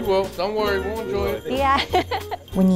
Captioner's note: laughs